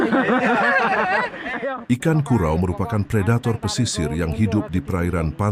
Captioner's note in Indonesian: tertawa